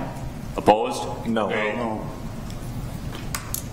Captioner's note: multiple Voices